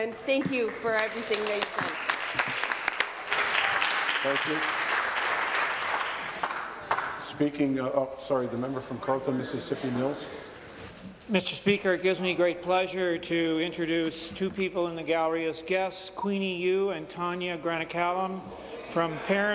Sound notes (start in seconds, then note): 6.0 applause